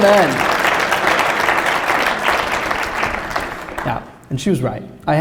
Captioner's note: applause